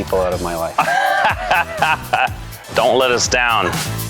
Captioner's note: laughing